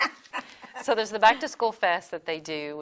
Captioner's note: laugh